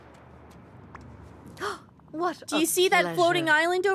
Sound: Mother Gothel Gasps

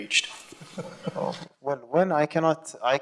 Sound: laughing

